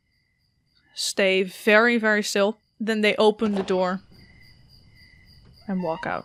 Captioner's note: door opens and crickets chirp